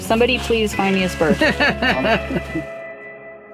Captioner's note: laughter